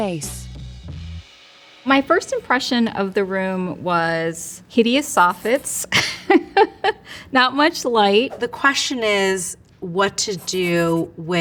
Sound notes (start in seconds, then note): 0.0 upbeat music; 5.9 chuckles